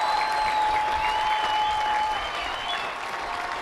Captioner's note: cheers and applause